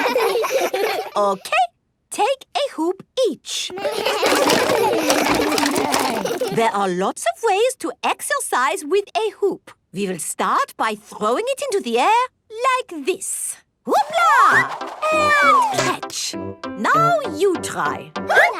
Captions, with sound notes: (Laughs) Okay! Take a hoop each! (all laugh) There are lots of ways to exercise with a hoop! We will start by throwing it into the air like this. Hoopla! And catch. Now you try.